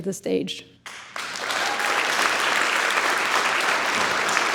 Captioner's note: audience applauds